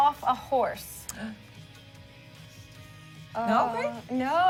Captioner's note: gasp